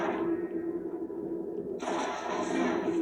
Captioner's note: sounds of composure and shots